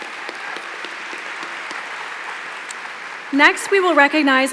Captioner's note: applause